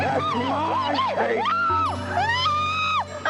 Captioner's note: Kate screaming